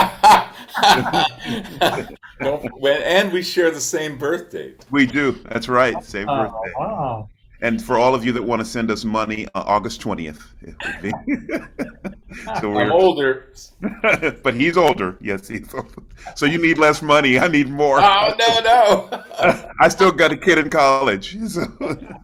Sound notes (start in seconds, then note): 0.0 participants laugh; 10.3 laughs; 13.7 chuckling; 19.1 participants laugh; 22.0 participants laugh